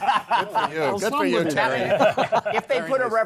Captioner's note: laughter